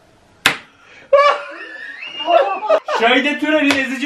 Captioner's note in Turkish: kahkaha sesleri̇